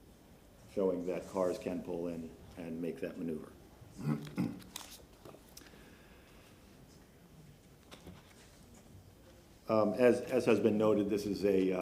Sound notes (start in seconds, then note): 1.9 off microphone